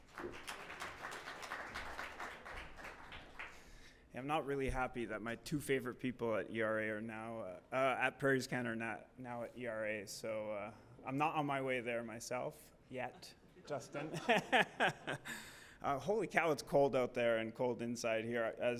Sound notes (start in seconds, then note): 0.0 audience clapping; 14.0 laughs